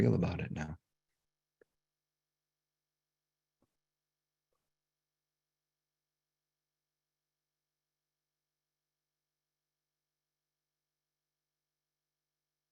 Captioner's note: silence